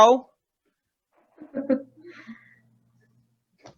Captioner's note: stomp